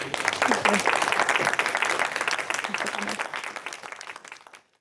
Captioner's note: attendees applaud